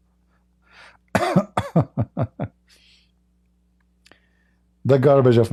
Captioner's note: Ketawa